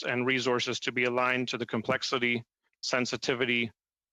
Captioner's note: speaking French